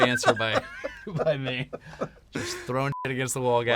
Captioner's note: laughter